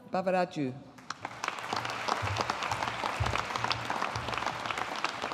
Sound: audience applauding

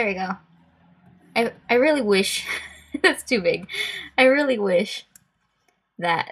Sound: laughs

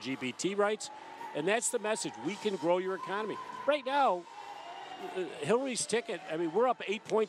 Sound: boos from the crowd

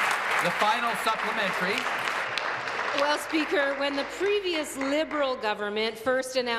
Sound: applause

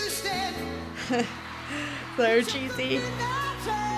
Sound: laughs

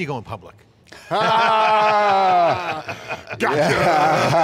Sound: laughing

